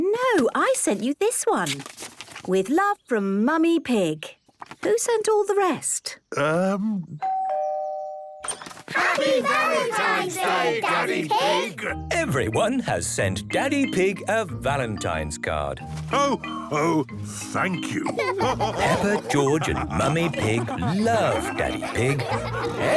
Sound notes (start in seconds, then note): 7.2 doorbell rings; 8.9 crowd; 17.8 all laughing